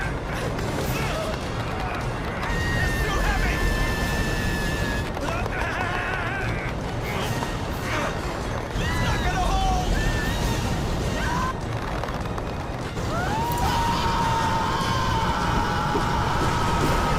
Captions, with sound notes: IT'S TOO HEAVY. [GROANING] IT'S NOT GONNA HOLD! [SCREAMING]